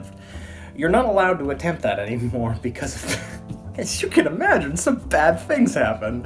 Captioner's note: laugh